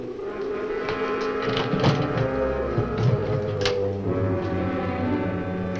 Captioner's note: window shutter clunks